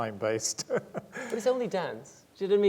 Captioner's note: laughing